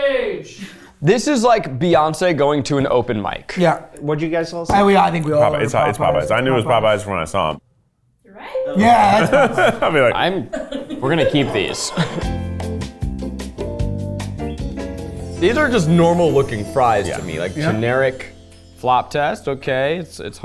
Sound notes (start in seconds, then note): 8.6 bell ringing; 11.9 bright music